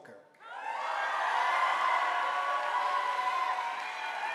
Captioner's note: audience applauding